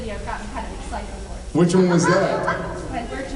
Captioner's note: laughs